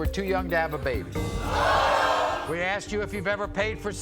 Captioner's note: audience oohs